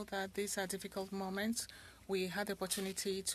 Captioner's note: speaking French